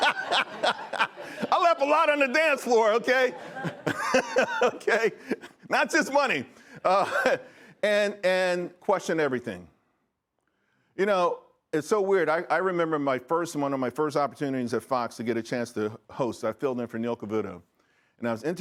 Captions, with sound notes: WELL, TWO THINGS. ONE, DON’T GO CLUBBING SO MUCH. ONE, DON’T GO CLUBBING SO MUCH. [LAUGHTER] [LAUGHTER] I LEFT A LOT ON THE DANCE FLOOR I LEFT A LOT ON THE DANCE FLOOR OKAY? OKAY? NOT JUST MONEY. NOT JUST MONEY. AND QUESTION EVERYTHING. AND QUESTION EVERYTHING. YOU KNOW, IT’S SO WEIRD. YOU KNOW, IT’S SO WEIRD. I REMEMBER MY FIRST, ONE OF MY I REMEMBER MY FIRST, ONE OF MY FIRST OPPORTUNITIES AT FOX TO